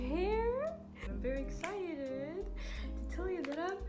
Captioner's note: finger snaps